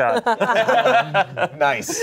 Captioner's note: everyone laughs